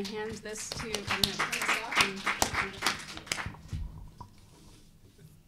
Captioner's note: audience applauding